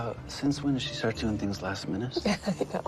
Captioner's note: chuckles